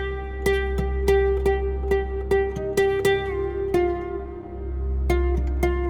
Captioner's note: none